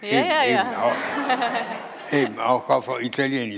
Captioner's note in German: Publikum lacht